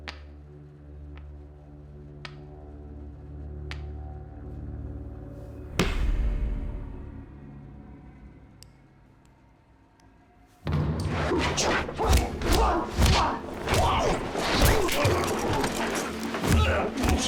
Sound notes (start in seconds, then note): 0.3 suspenseful music; 11.2 grunting